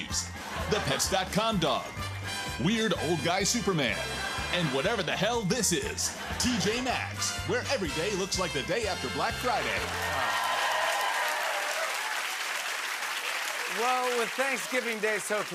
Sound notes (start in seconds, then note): 9.0 cheers and applause